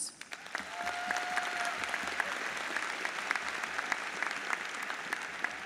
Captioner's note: audience applauds